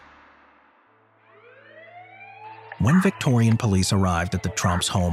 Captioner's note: siren wailing